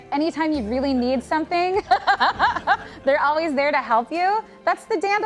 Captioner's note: laughing